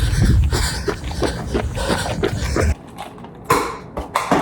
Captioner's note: heavy breathing